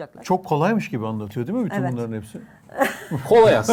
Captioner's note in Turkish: kahkaha